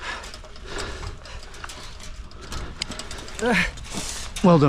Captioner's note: wire clanking; groans